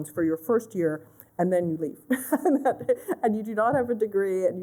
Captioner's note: laughter